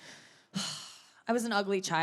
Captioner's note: sighing